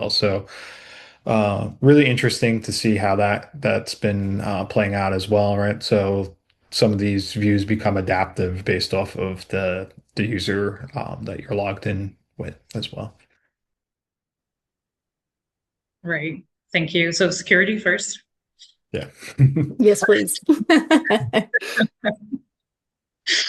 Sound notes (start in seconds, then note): 19.0 chuckles; 19.6 laughing